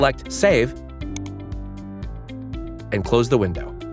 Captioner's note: cursor clicks